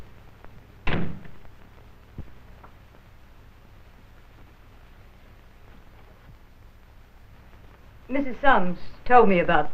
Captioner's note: door slamming